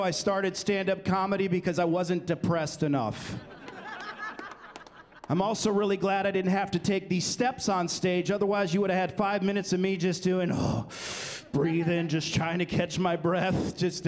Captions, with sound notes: I started standup comedy because I wasn't depressed enough. [laughter] I'm also really glad I didn't have to take these steps on stage, otherwise you would've had five minutes of me just doing, oh, breathing, just trying to catch my breath.